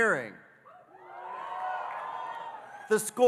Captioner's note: audience cheering